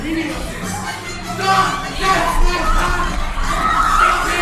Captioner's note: shouts